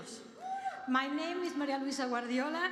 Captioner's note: language other than english